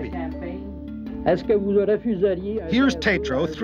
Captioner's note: speaking French